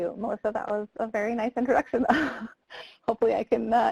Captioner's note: laughs